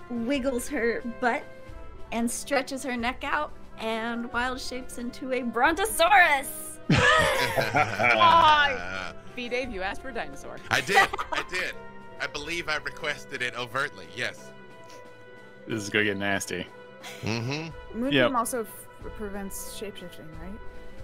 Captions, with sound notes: wiggles her butt and stretches her neck out and wild shapes into a brontosaurus. (all laugh) - Ah, B. Dave you asked for a dinosaur. - I did, I did, I believe I requested it overtly, yes. - This is going to get nasty. - Mm hm, yep. - Moonbeam also prevents shape shifting, right?